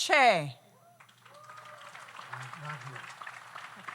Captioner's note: audience applauds